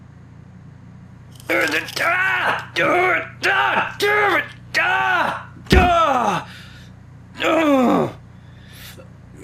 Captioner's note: Crunch; yelling; groaning in pain